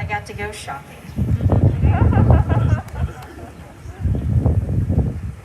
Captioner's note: laughter